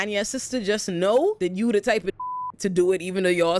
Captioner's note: beep